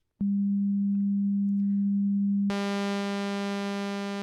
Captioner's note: low tone; buzzing